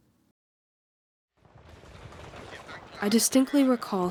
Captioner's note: radio broadcast and gunfire in distance